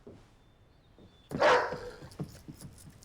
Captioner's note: dog barks